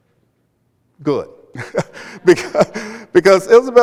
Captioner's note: chuckles